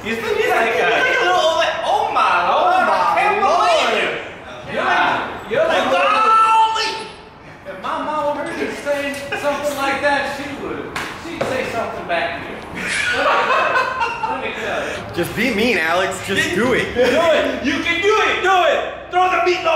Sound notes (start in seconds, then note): 5.9 screams